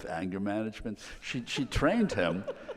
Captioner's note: laughing